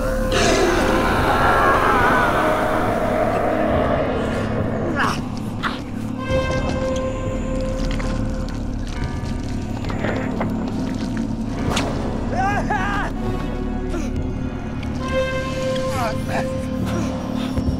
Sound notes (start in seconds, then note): 0.1 hissing; 0.3 growling; 12.7 shouting; 14.0 tense instrumental music